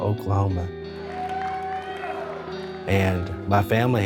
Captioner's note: people cheering